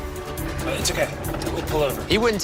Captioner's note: smash